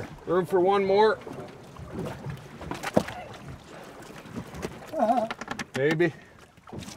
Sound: chuckling

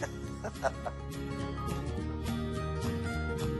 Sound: laughs

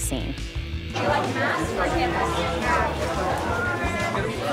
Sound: kids chatting

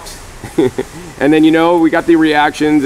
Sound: laughs

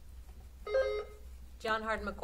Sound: buzzer sounding

